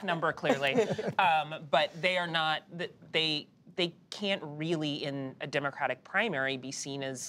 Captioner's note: laughter